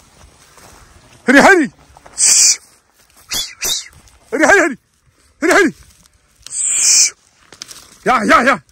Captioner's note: calling to the sheep